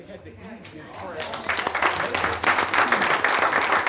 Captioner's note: applause